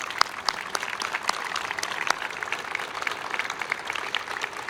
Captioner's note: applause